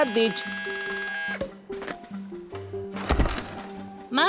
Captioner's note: drilling